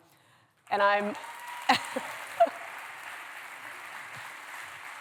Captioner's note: cheers, applause